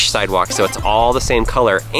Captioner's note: power up sound